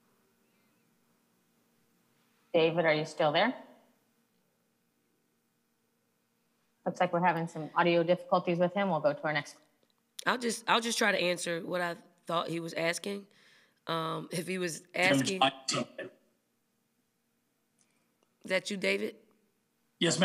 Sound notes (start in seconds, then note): 15.0 microphone feedback